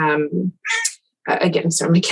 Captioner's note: cat meows